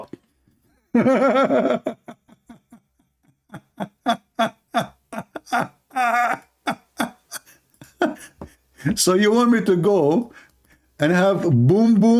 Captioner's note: Ketawa